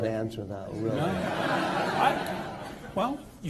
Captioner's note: laughter